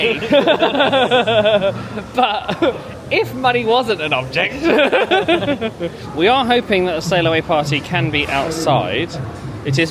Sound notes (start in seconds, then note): 0.0 both laugh; 4.5 laughs